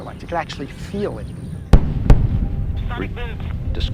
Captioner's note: sonic booms